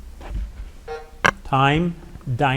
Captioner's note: timer buzzing